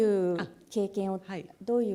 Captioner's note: speaking japanese